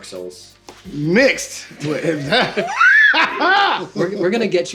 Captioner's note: laughs